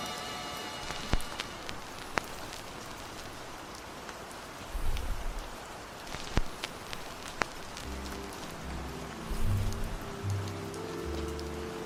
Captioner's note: record fuzz